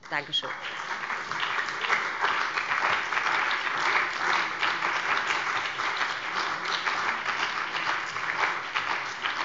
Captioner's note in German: Beifall bei dem BÜNDNIS 90/DIE GRÜNEN und der CDU